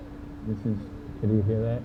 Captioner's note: low mumbling